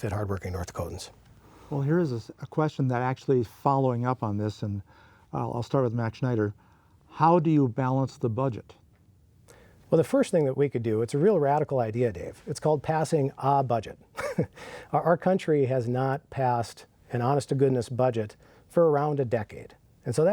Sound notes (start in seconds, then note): 14.4 laughs